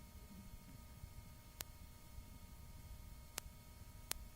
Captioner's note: clicking